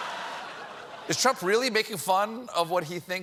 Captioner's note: cheers and applause